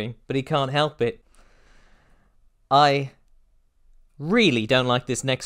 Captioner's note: deep breath